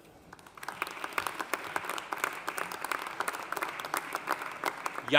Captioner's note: audience applauding